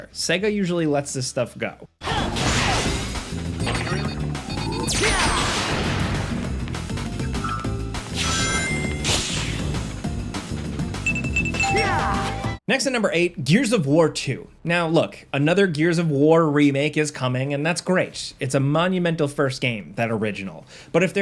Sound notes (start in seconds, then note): 2.9 Sonic grunting; 2.9 upbeat music